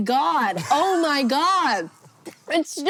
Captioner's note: HANK wheeze-laughs